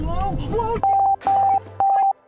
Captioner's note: beeping